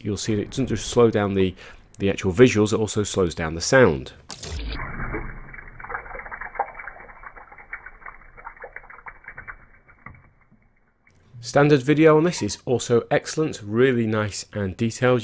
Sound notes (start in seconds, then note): 4.3 slow water sound